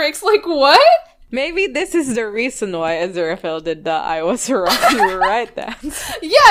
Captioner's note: laughing